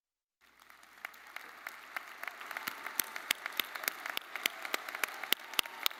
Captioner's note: audience applauding